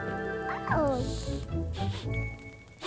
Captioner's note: sniffing